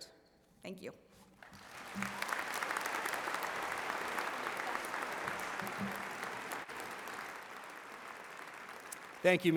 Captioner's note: applause